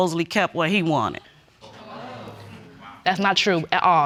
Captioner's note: audience exclaiming